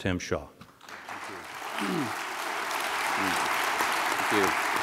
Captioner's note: audience clapping